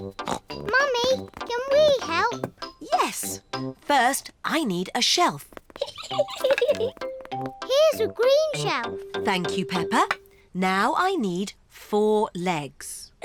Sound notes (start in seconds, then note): 0.1 snorts; 5.7 giggles